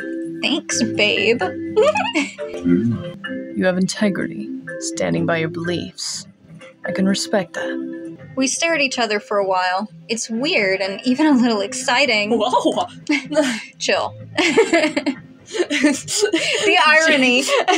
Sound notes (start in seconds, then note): 0.9 Jæmis Hums; 1.7 giggle; 1.8 chuckle; 14.3 snicker; 14.4 chuckle; 15.5 laugh